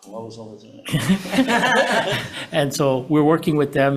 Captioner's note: all laughing